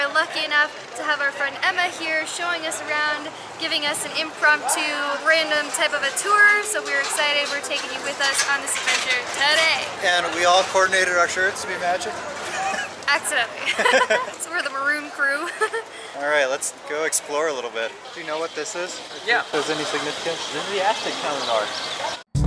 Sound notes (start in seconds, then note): 13.6 laughter